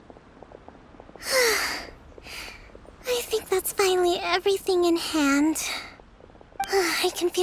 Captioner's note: sigh